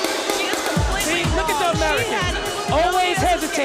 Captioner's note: bell ringing